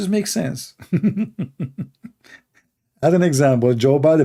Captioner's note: Ketawa